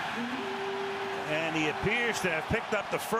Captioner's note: cheering